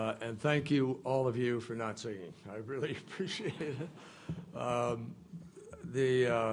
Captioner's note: laughter